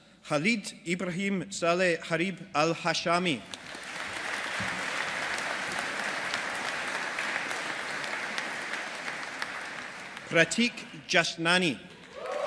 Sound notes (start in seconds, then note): 3.5 audience applauding